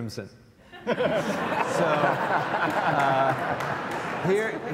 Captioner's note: audience laughs